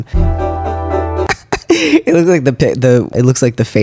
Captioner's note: laughter